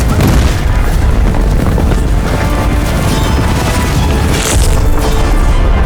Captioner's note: flames roar and crackle; explosions thump; dramatic orchestral music